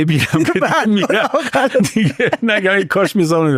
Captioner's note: laughs